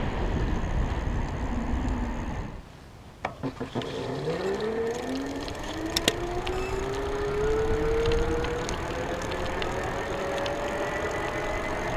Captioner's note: motor whirring, braking sounds